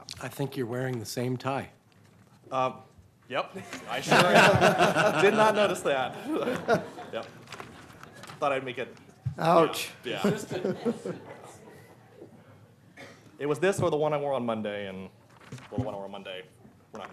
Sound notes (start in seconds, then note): 7.5 laughter; 14.4 laughter